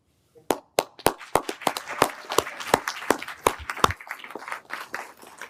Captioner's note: everyone applauding